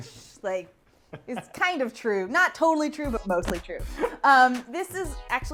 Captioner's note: he-he-he